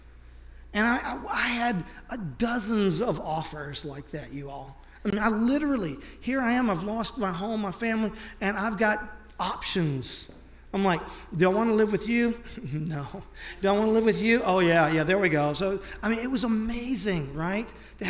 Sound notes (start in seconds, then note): 12.4 laughs